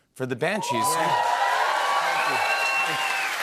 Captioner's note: cheers and applause